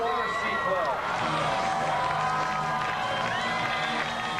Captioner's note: cheering